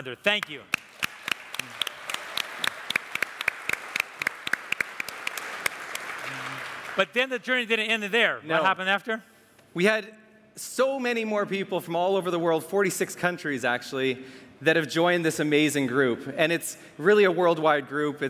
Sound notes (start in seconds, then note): 0.4 all applaud